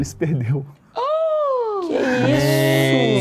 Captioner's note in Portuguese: faz som de surpresa